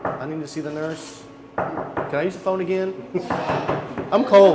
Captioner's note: knocking; knocking